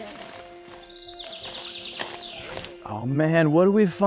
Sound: birds chirping

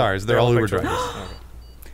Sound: gasps in a handsome manner

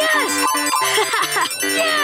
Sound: laughing

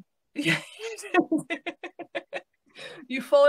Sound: laughing

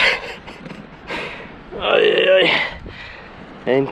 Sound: old man noises

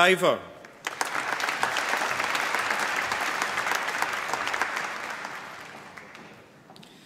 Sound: applause

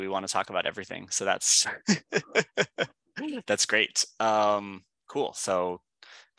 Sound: laughing

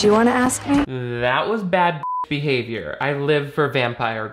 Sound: beep

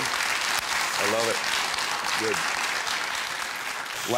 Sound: audience clapping

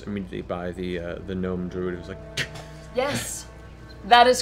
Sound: gasps

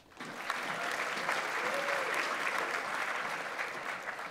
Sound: audience applauds

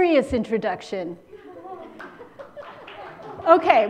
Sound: laughter

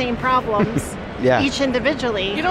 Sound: chuckles

